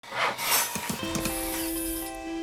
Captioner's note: tools sawing and hammering; energetic piano music